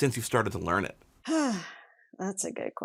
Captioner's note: sighing